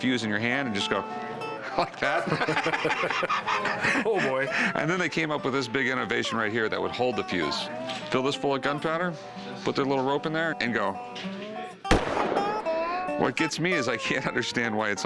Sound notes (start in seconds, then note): 1.6 both laugh; 11.9 gunshot